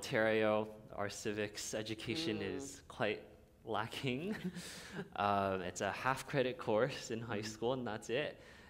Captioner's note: chuckle